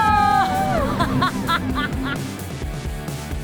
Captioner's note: laughing; upbeat music